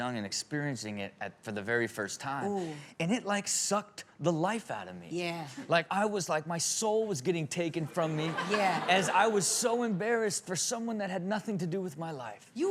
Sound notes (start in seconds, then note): 8.0 all laugh